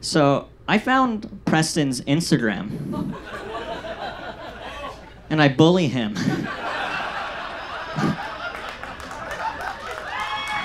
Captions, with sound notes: So I found Preston's Instagram (audience laughs) and I bully him. (audience laughs and cheers)